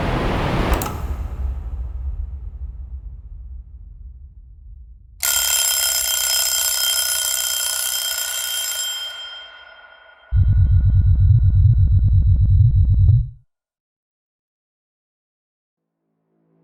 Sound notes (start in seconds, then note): 5.2 alarm ringing